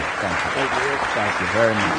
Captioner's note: applause